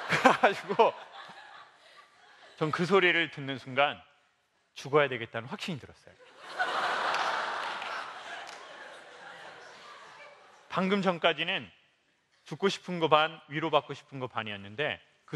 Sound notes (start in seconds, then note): 6.3 laugh